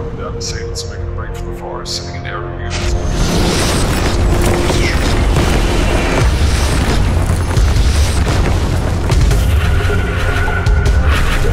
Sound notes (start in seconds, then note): 3.5 shots booming; 8.3 suspenseful music